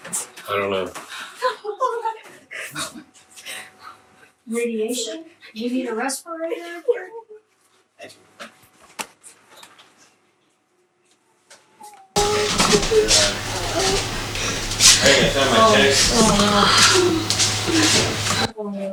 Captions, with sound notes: - I don't know. - Radiation, you need a respirator? - I do. (crashing) - Hey, it's time for a check. (gasping)